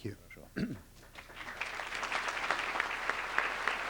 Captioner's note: applause